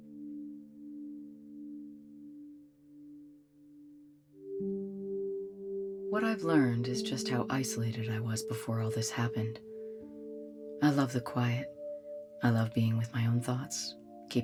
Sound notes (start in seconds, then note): none